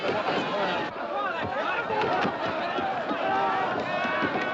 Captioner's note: Grito